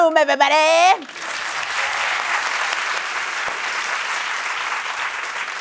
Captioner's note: cheering and applause